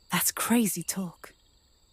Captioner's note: none